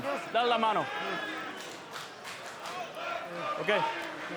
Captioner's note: referee speaks in Spanish